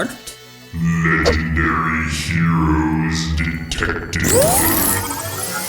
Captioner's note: deep, robotic voice